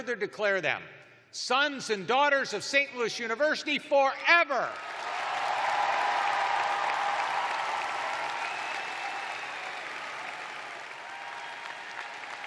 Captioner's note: cheers and applause